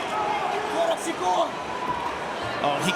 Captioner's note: foreign